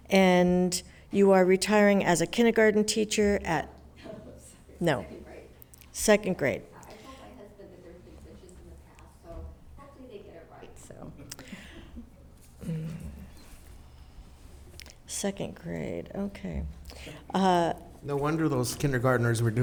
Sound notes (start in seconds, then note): 3.9 laughing; 11.4 spectators chuckling